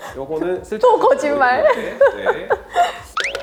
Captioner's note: laughs